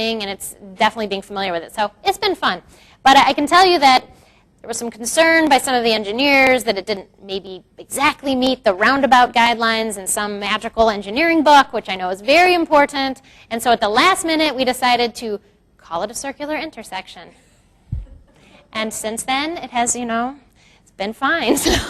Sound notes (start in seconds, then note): 17.8 crowd laughs; 21.1 laughs